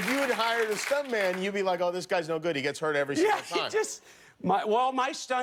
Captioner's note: applause; laughter